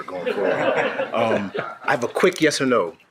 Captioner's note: people laughing